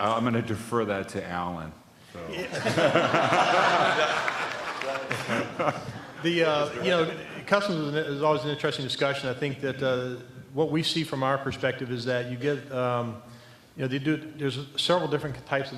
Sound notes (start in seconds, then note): 2.3 laughter